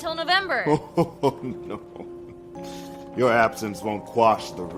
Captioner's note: Solomon laughing